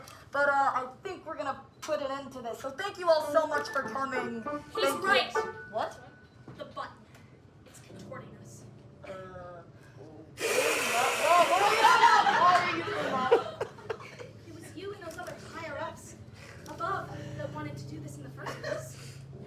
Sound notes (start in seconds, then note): 10.4 librarian hiss